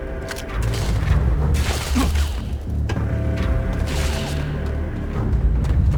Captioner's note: gunshots